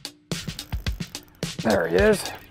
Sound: upbeat rock music; fishing line whirring

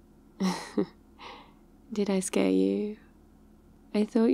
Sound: laughs

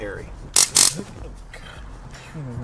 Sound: taser starts

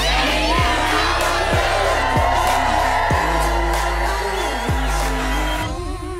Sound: crowd cheering

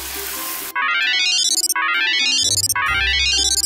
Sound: mobile phone ringing

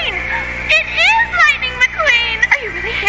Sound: gasps

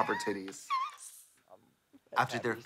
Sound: rasps

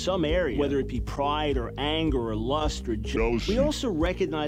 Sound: distorted voice

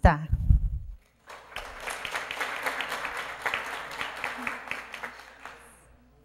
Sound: applause

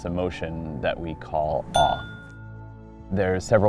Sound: bell dings

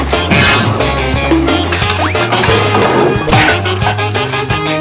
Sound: cartoonish whistling; cartoonish smacking

